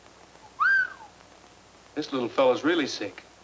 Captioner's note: Roy whistling